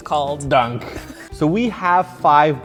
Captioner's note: laughs